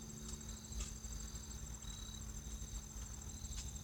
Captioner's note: footsteps